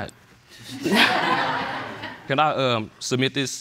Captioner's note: all laughing